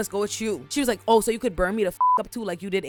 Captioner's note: beep